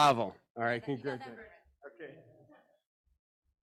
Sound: presenter laughs; participant speaks faintly

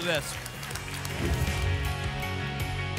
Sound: whoosh

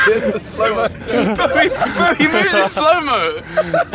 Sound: all laughing

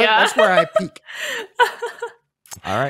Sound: laughs

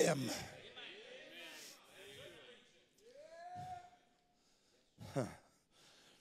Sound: crowd

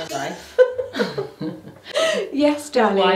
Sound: laughing

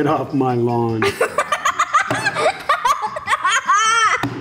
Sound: laughs

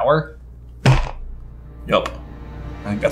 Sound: book slams

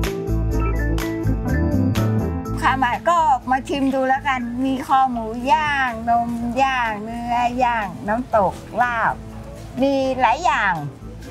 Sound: speaking Thai

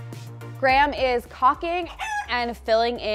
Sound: chicken clucks

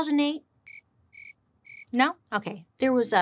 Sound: crickets chirping

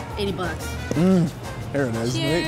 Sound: moans

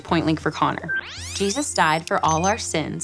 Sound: computer beeps

